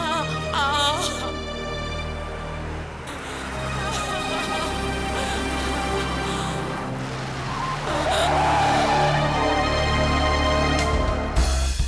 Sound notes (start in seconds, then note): 0.0 car engine revving; 0.0 suspenseful music; 0.3 woman moaning; 2.6 car engine revving; 4.2 woman crying; 8.1 tires screeching; 11.6 smooth jazzy music